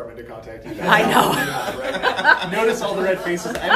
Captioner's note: laughs